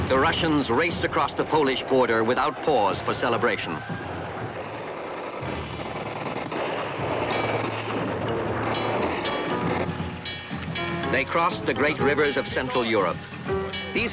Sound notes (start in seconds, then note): 4.4 guns firing